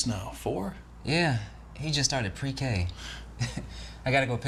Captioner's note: chuckles